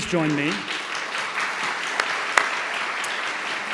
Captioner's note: applause